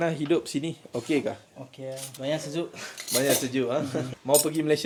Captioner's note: laugh